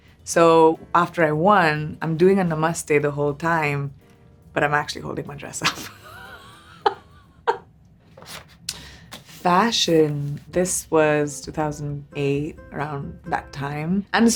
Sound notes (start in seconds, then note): 5.6 Priyanka laughs